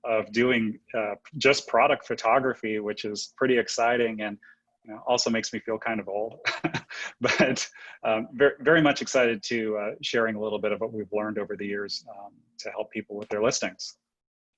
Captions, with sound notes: of doing just product photography, which is pretty exciting and also makes me feel kind of old.(laughs) But very much excited to sharing a little bit of what we've learned over the years, to help people with their listings.